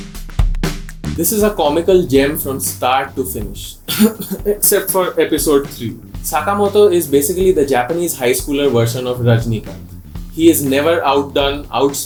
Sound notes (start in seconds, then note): 3.7 cough